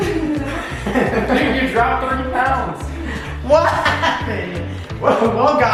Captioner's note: everyone laughing